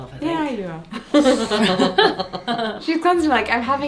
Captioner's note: pair laughs